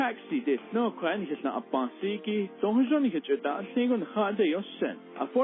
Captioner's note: foreign language spoken